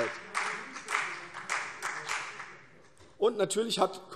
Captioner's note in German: Beifall CDU